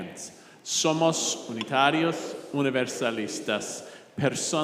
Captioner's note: speaking in Spanish